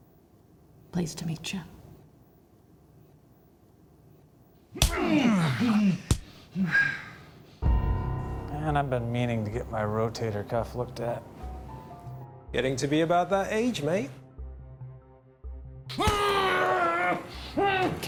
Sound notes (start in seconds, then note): 4.8 punching, groaning; 7.6 suspenseful music